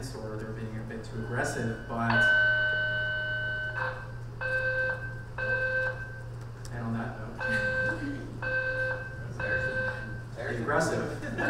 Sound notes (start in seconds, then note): 2.6 alarm beeping; 7.3 alarm beeping